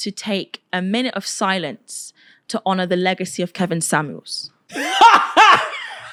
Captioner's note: laughter